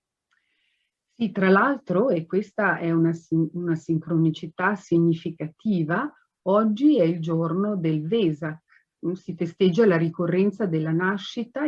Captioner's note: speaks Italian